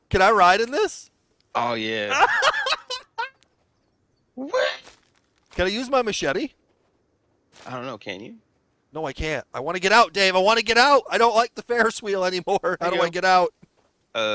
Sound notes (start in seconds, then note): 2.1 laughter